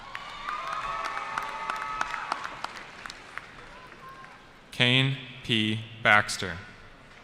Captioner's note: cheering